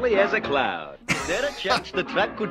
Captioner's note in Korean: 웃음